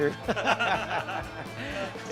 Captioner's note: laughing